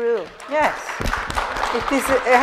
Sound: clapping

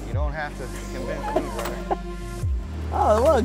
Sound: chuckles

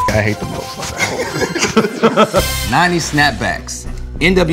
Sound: laugh

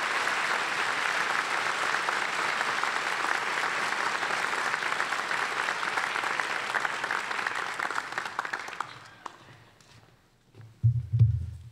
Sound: applause

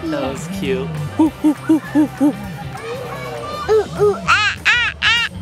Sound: imitating a monkey

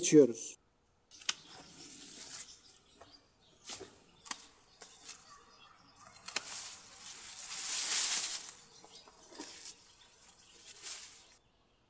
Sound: the sound of scissors cutting, the sound of birds and the rustling of leaves

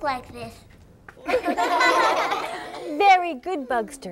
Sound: laughter

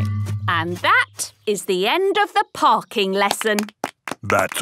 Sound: clapping

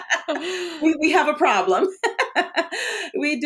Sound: both laughing; laughs

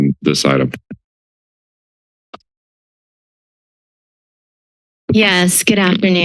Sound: silence

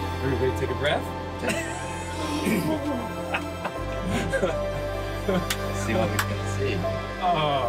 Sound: laughter

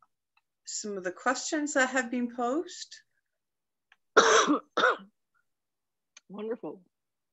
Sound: cough

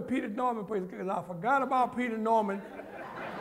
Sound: laughter

